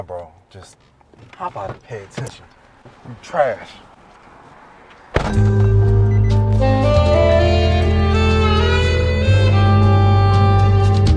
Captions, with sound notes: - Nah, bro just pop out and pay attention. You're trash. (door thudding) (beeping sound) (classical instrumental music).